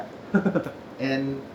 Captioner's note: chuckles